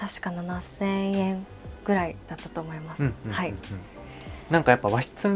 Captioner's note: laughs